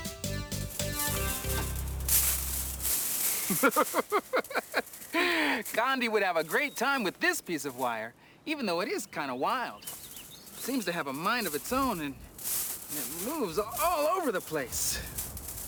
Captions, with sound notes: (LeVar laughs) - Kondi would have a great time with this piece of wire, even though it is kind of wild. Seems to have a mind of its own, and it moves all over the place.